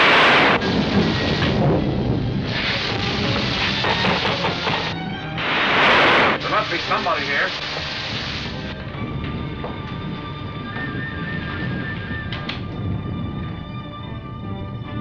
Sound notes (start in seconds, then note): 0.0 thunder crashing; 3.8 knocking; 5.7 thunder crashing